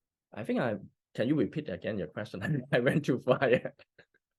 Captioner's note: laughs